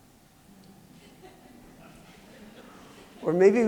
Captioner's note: laughter